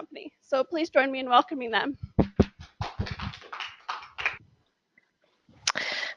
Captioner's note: applause